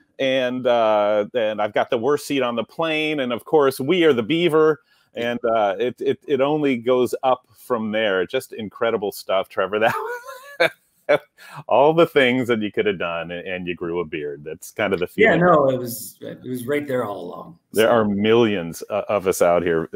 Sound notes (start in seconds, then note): 9.6 laughing